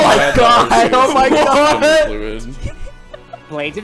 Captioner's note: everyone laughing at the incoming list of moves